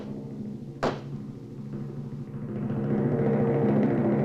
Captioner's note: knocking